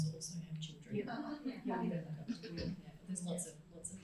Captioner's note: crowd laughs